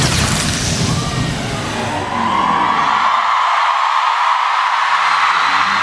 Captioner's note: music cuts out - electrical power down noises; cheering